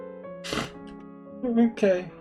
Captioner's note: sniff-snorts